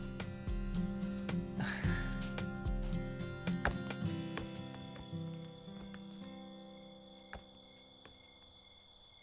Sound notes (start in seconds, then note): 1.5 Peter sighs; 4.0 insects chirping